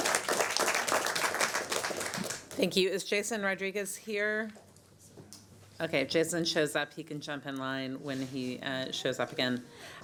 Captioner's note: applause